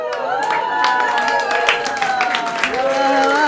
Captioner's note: applause